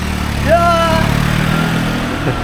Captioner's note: screams